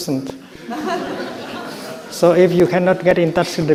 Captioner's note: crowd laughs